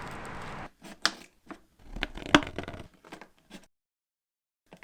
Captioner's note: plastic crunching